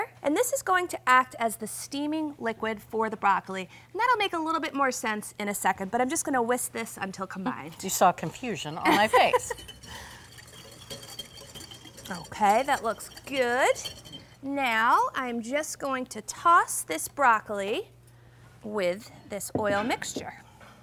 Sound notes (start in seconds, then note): 7.8 laughing; 9.0 whisk clicking